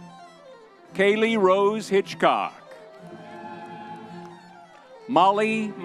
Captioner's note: crowd cheering